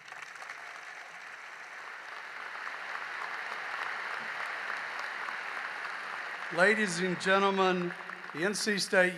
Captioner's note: applause